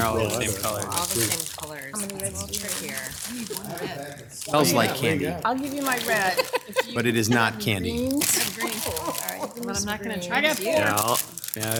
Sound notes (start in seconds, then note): 2.1 council members mumble; 6.3 council member laughs